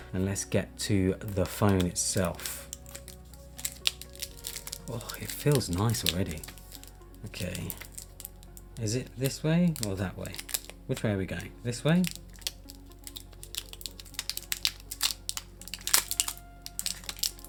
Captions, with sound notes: And let's get to the phone itself. [plastic rustling] Woah, it feels nice already. Okay. Is it this way or that way? Which way are going? This way? [plastic rustling]